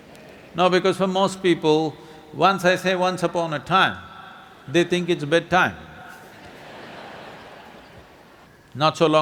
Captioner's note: laughter